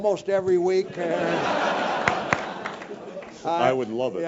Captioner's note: laugh